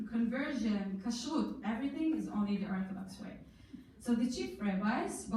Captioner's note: in foreign language